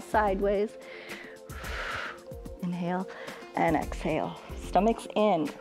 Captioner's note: exhales